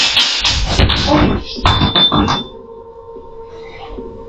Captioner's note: glass falls